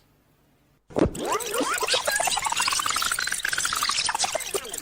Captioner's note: tape squealing